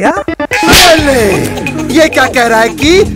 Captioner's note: Slaps